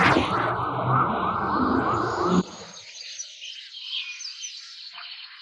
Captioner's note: birds chirping